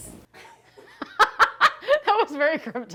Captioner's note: laughing